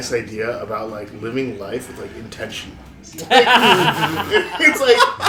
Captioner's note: laughter